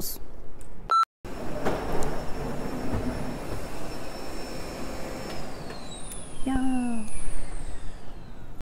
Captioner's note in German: Staubsaugergeräusche